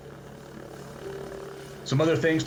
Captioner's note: helicopter whirls